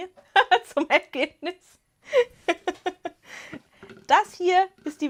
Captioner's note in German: Gelächter